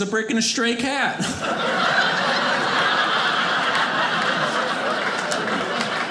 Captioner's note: audience laughing